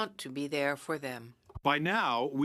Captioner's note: speaking French